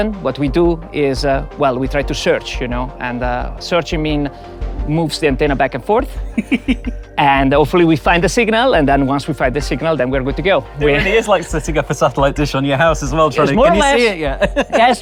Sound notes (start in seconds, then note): 6.2 giggles